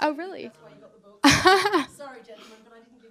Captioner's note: laughter